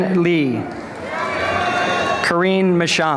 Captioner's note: cheering